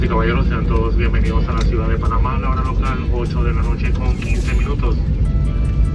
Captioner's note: spanish speaking